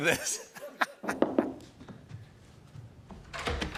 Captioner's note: knock on door